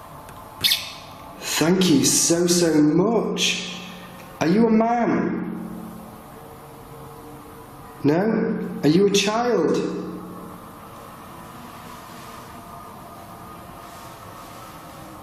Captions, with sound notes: (metre beeping) Thank you so, so much. Are you a man? No? Are you a child?